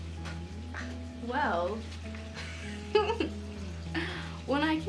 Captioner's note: laughing